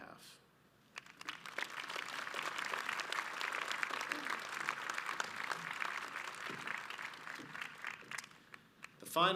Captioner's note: audience applauds